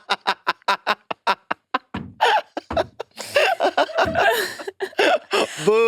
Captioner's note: participants laughing